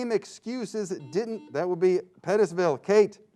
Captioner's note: buzzing sound